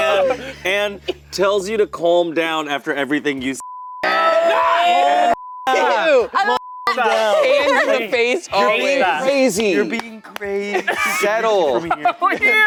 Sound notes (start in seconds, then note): 0.0 laughing; 3.6 beep